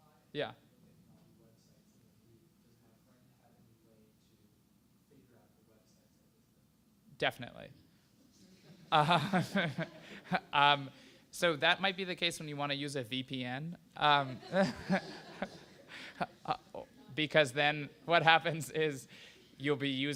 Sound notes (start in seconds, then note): 7.8 laughter